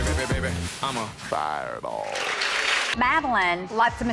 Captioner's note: girls applauding